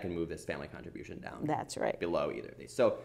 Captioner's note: voiceover